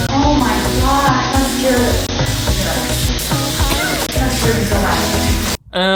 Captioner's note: beep